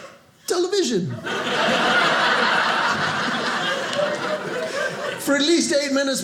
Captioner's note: audience laughing